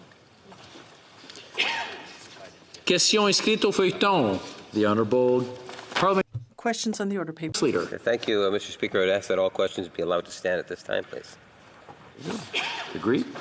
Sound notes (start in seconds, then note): 3.9 speaking French